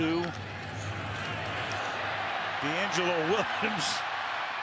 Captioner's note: cheers, applause